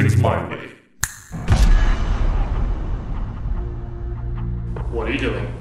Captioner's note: snaps Fingers